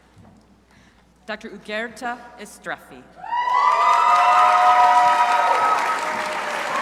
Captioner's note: crowd applauding